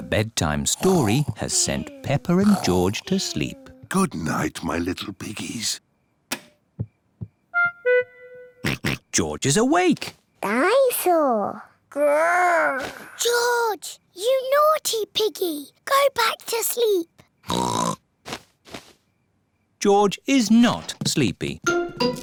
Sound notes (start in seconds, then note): 6.3 light switch clicks; 8.6 oinks; 17.4 oinks; 22.1 bells ring and toys squeak